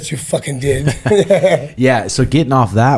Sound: both laugh

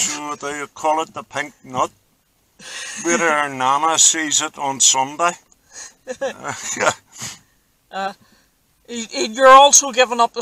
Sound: both of us laugh

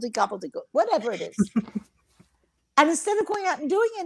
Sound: laughs

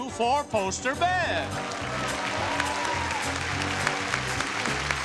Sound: audience applauds

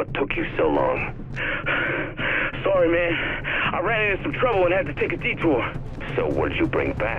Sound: panting

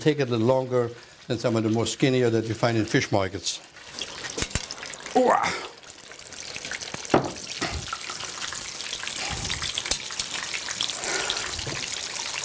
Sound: sizzling

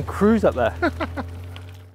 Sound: laughing

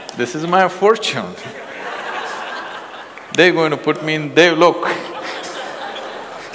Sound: laughter

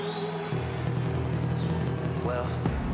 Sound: applause

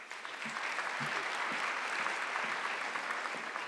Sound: audience clapping

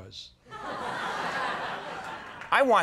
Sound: audience laughs

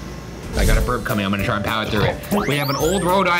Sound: burps

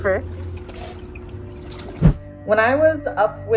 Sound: water splashing noises

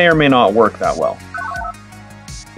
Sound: analog beeps

